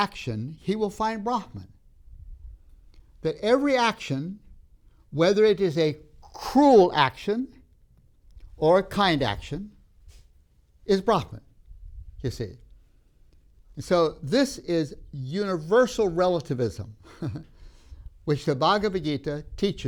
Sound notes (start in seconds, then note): 17.0 laughs